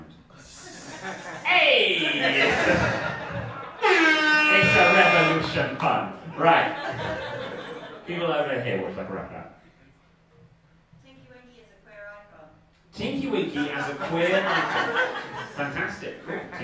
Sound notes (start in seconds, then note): 0.5 audience giggling; 1.9 audience laughing; 3.7 foghorn sounds; 6.3 audience laughing; 13.7 audience laughing